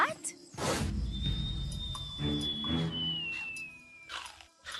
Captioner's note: Alejandro Whistling